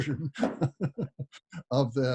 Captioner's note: laughs